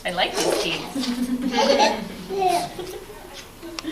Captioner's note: laughing